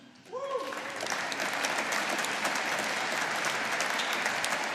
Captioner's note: audience applauding